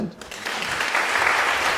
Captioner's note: applause